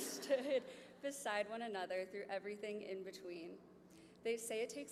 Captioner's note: laughter